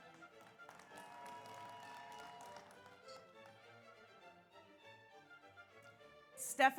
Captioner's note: audience applauds; audience cheers